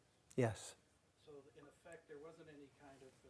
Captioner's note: voiceover